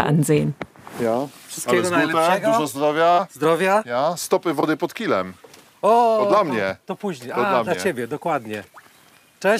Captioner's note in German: Sie unterhalten sich auf polnisch